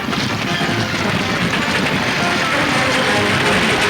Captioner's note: clattering; pleasant orchestra music